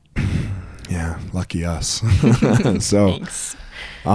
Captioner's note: laughs